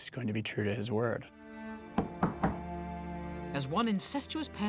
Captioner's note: knock on door